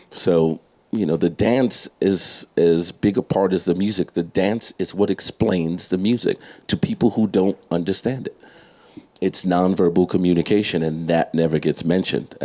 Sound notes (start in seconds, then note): none